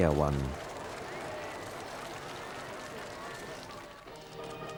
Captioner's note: crowd applauding; ceremonious music